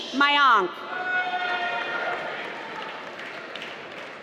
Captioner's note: applause